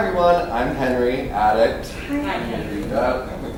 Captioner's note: all murmuring